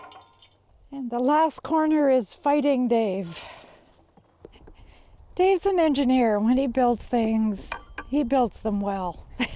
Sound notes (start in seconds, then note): 8.6 laughs